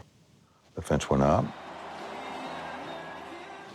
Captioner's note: cheers and applause